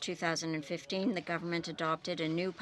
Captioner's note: speaking French